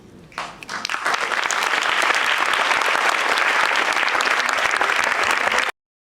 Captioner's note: applause